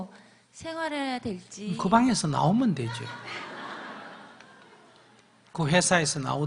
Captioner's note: audience Laughter